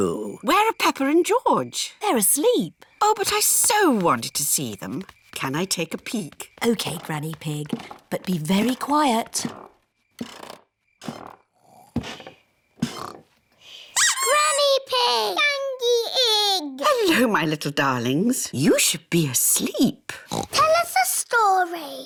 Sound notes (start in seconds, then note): 9.8 stairs creak softly; 12.8 both snore; 14.0 duck squeaks; 20.2 oinks